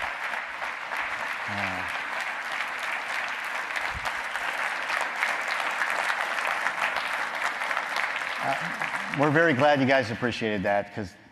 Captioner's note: applause